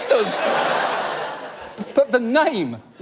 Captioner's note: audience laugh